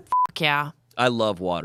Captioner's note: beep